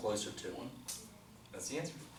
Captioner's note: voiceover